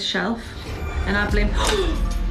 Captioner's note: gasps